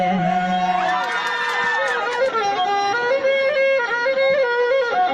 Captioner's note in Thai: ปรบมือ